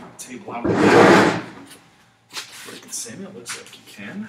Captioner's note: scraping sound